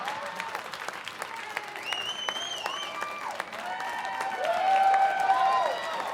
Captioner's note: audience clapping and cheering